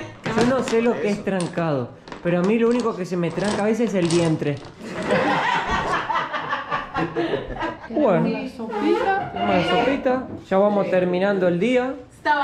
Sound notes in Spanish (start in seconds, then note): 4.8 Risas